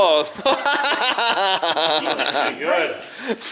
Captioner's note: laughing